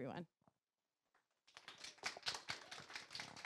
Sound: clapping

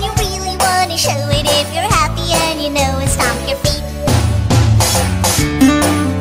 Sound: stomp stomp

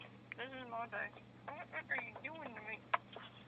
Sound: talking through tight lips

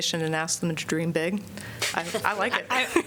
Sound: laughter

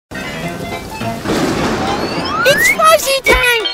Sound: lively music; thunder crashes

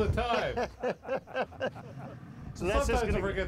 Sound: laughing

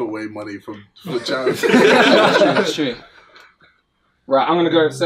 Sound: all laughing

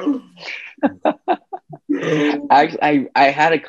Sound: chuckles

